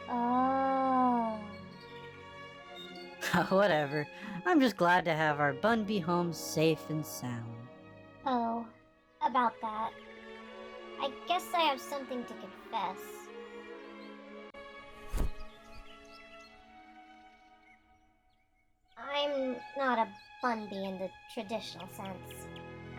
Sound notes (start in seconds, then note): 3.2 laughs; 15.0 hood removal sound; 17.1 birds continue chirping